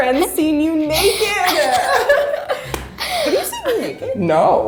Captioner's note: laughing